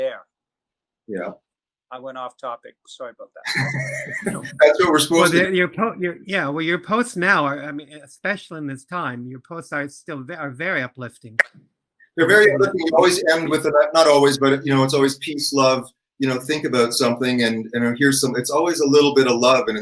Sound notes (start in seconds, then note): 3.4 chuckle